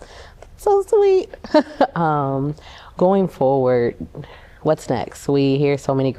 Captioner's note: laughter